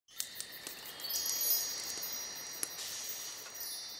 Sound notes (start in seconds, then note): 0.2 chimes ringing